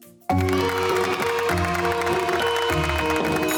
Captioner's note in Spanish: los niños aplauden